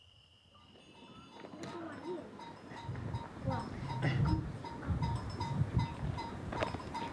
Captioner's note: bells clanking; hooves beating